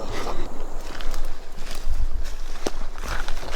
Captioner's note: rustling leaves